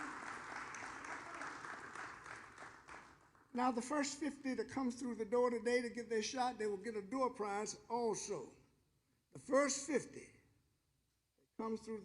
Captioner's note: applause